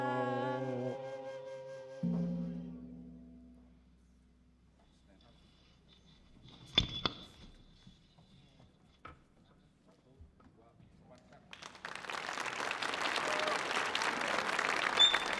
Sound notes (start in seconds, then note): 2.0 gong ringing; 11.5 audience applauding